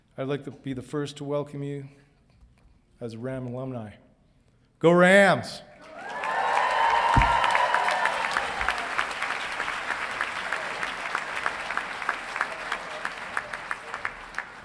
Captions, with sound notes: I'd like to be the first to welcome you as Ram alumni. Go Rams! (audience cheering and applauding)